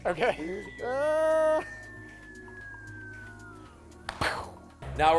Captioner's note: whistle descending; groaning